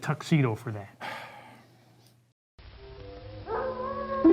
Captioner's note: sighs; wolves howling